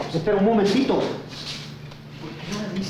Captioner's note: speaking in foreign language; Jose speaking in foreign language